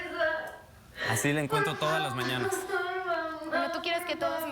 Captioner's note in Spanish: Sollozos